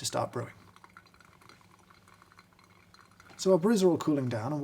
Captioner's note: cups clinking